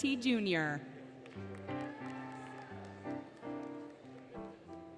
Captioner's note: applause, Cheering, Music